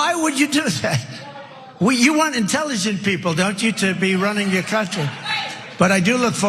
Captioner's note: laugh